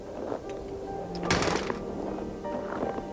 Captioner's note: door thuds; footsteps crunching